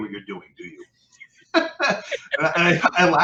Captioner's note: laughing